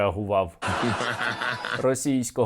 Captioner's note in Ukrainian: сміється